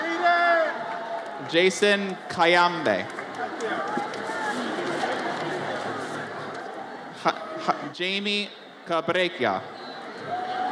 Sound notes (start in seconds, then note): 4.4 audience chatters